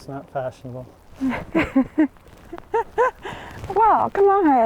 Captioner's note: laughing